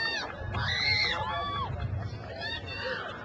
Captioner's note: crowd cheers